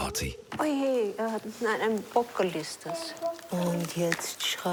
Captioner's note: speaking foreign language